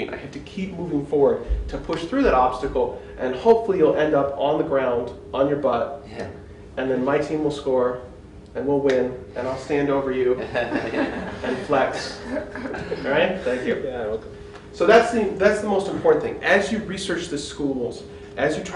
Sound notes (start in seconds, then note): 10.4 laughter